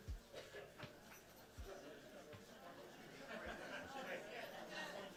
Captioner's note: crowd murmuring